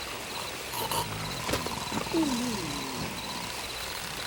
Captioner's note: head thuds